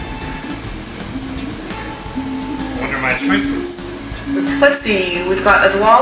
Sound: people chatting indistinctly

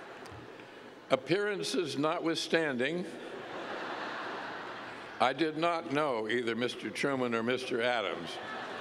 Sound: laughter; laughter

